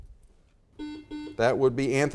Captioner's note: buzzer beeps